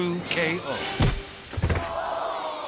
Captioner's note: paw thudding; crowd